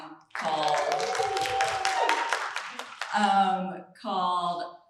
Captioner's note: applause